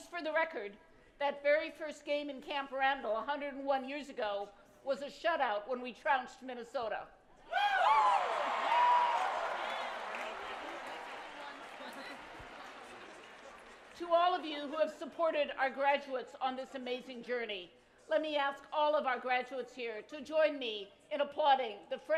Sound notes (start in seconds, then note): 7.8 applause